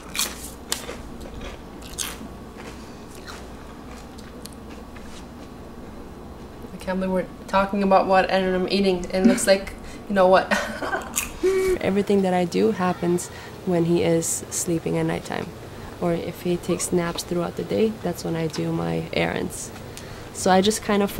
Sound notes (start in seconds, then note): 10.5 laugh